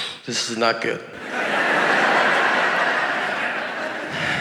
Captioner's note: audience laughing